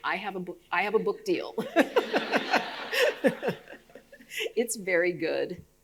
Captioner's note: audience laughing